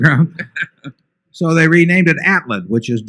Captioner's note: laughter